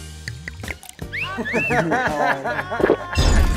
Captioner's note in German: Pfiffe, Lachen